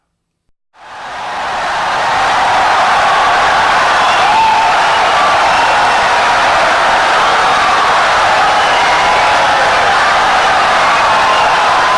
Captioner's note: wild applause and cheering for 17 seconds